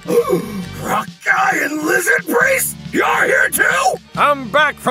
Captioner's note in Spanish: boqueada